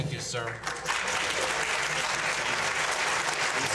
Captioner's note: all applauding